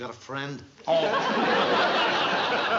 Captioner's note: laughter